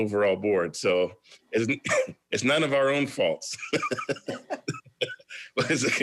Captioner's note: laughs